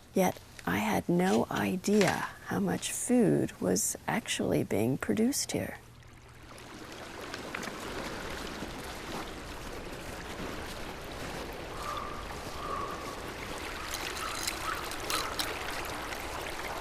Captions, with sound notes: Yet, I had no idea how much food was actually being produced here. (water babbling) (crows cawing)